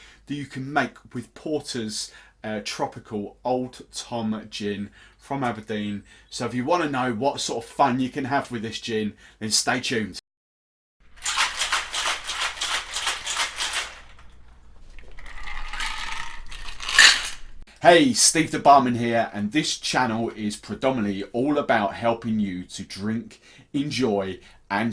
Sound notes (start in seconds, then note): 11.2 ice rattling; 15.0 ice pouring